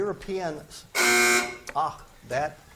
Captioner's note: buzzer buzzes